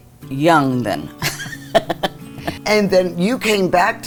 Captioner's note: laughs